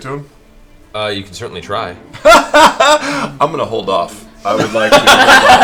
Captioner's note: laughing